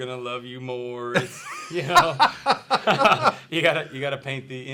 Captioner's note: laughs